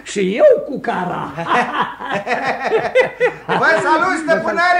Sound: all three laugh

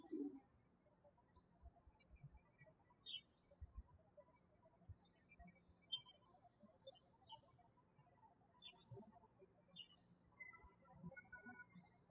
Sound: birds chirping

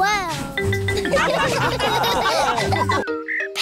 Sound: laughter

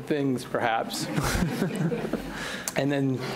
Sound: audience laughs

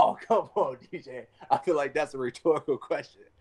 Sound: laughs

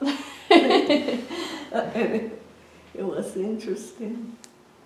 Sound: laughs

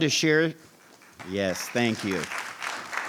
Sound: clapping

